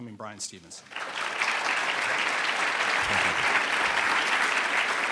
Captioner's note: audience applauding